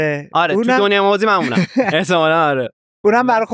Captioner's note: laughs